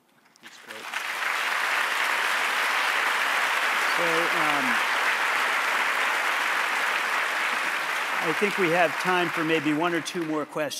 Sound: applause

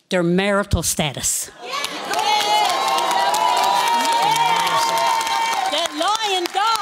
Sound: cheering

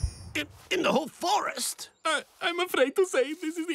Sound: none

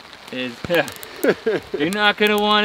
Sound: laughs

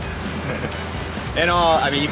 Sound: laughs

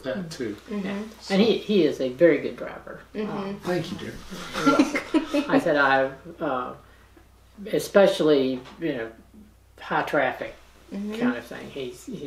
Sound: laughter

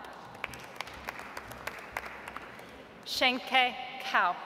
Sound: audience applauds

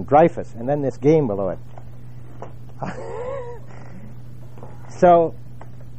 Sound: laugh

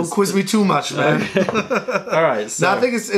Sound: laughter

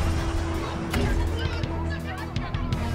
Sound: arguing

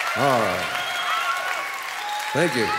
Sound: crowd cheering and applauding

